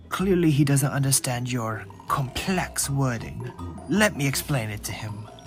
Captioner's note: none